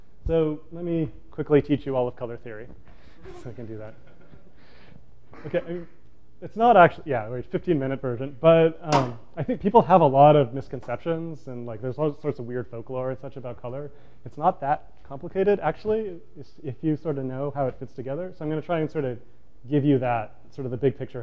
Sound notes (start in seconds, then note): 3.3 laughter